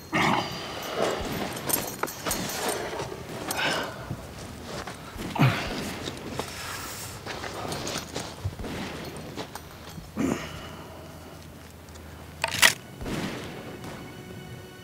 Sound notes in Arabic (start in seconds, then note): 5.2 إطلاق نار; 12.0 الموسيقى المشؤومة